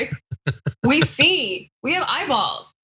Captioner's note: laugh